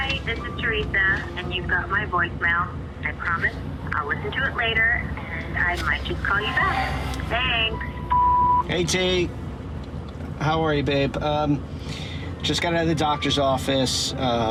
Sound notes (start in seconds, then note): 7.7 phone beeps